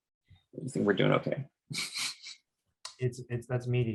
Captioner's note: chuckles